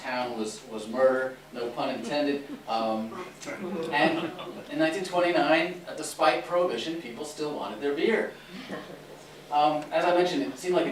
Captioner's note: laughter